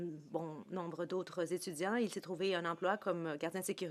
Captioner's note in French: voix de l'interprète